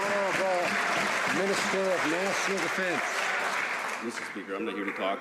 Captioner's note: some Applause